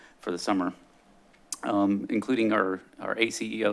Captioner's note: smacks lips